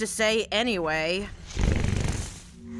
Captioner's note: Maine growls